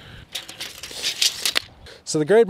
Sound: tape measure rattling

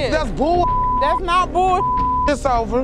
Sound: beep

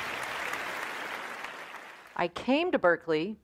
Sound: applause

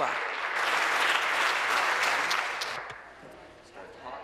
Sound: applause

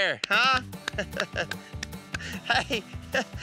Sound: laughing

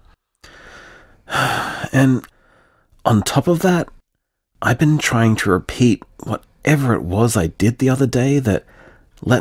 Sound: sigh

